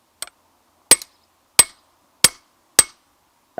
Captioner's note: peening